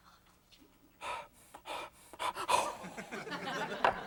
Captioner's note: breathing heavily